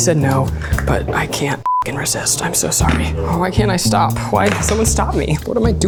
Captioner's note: beeps